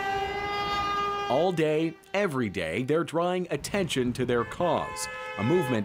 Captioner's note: honking horns